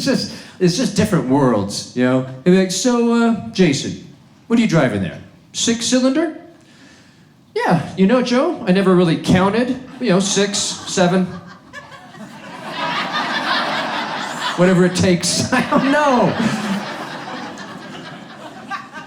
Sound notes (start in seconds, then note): 11.3 audience laughs